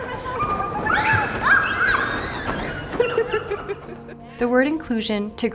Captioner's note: children giggling